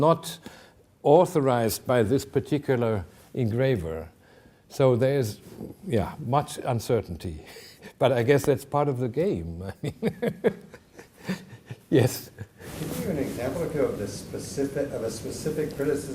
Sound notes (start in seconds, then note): 7.0 chuckling; 9.7 laughing